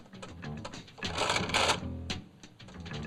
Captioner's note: machine rattles